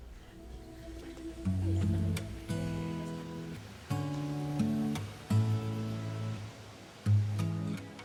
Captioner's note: hotel lobby sounds; soft music